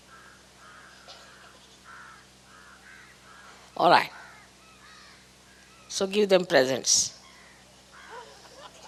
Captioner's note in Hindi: Laughter; हँसी